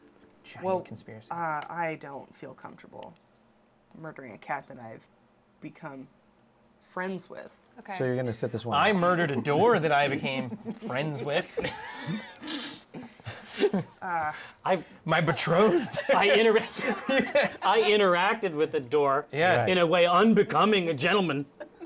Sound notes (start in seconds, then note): 11.6 laughing; 15.3 laughter